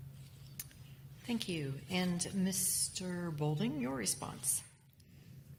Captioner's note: voiceover